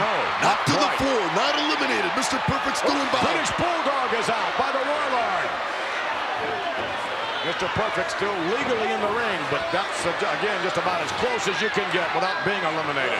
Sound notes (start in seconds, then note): 5.3 crowd shout